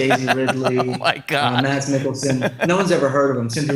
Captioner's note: laughing